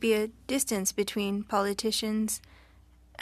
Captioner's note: speaking French